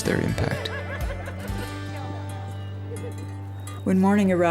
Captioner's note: laughing